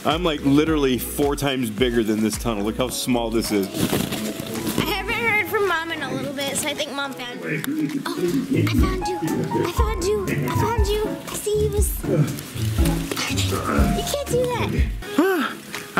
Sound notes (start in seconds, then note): 12.1 grunts